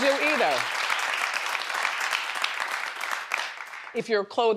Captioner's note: crowd applauding